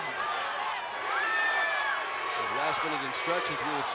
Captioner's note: applause